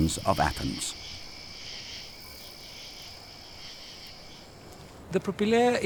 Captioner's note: insects chirring